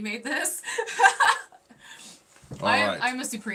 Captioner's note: laughing